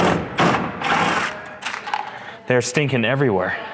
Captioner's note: machine whirring